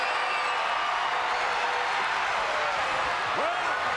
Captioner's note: crowd cheers